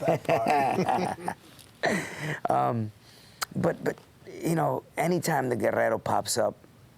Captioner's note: laugh